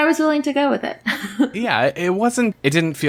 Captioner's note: laughs